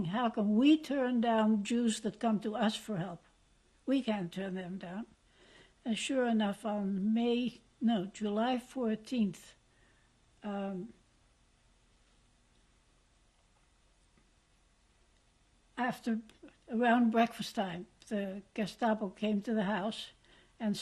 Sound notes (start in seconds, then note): 11.0 pauses for 7 seconds